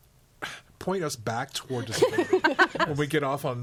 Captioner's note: all laughing